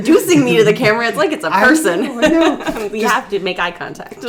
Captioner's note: laughing